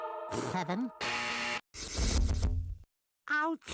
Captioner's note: buzzer sounding